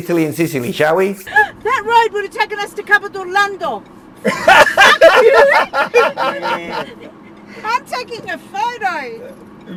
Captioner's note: everyone laughing